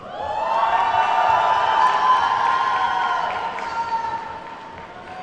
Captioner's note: attendees whooping and clapping